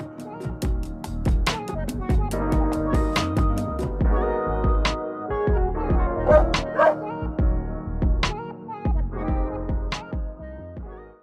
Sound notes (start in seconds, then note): 0.1 relaxing music; 6.2 dog barking